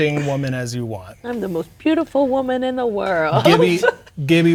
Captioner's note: laughs